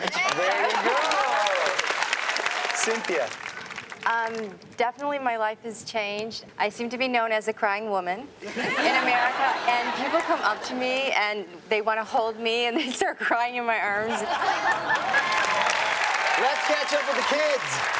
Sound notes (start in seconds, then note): 14.1 everyone laughs; 14.6 audience cheers and applauds